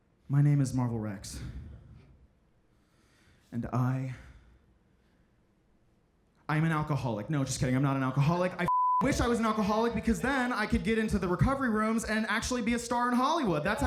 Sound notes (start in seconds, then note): 8.6 beep